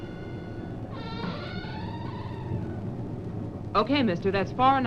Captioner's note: door creaks open